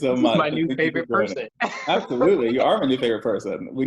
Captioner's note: laughs